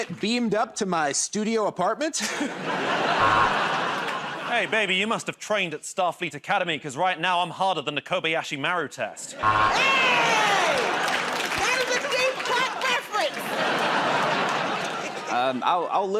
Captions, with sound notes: -You want to get beamed up to my studio apartment? [ Laughter ] [ Buzzer ] -Hey, baby, you must've trained at Starfleet Academy because, right now, I'm harder than the Kobayashi Maru test. [ Laughter and applause ] [ Buzzer ] -Aye! That is a deep cut reference. [ Laughter ]